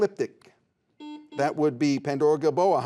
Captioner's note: buzzer buzzes